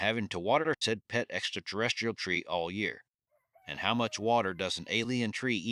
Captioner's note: support rooster crows faintly in distance